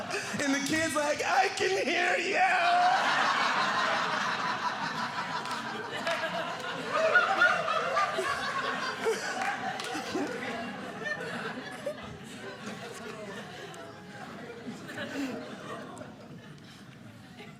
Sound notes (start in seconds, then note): 3.7 audience laughing